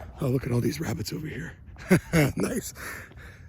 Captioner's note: laughs